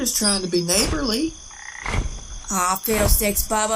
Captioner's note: wings flapping